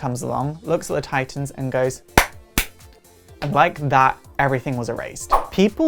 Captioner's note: clap